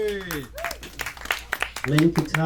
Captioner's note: audience cheering; audience applauding